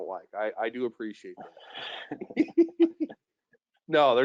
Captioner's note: laughing